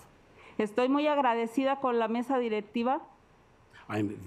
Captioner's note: speaking Spanish